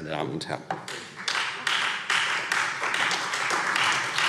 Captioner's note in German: Beifall Freie Demokraten und vereinzelt SPD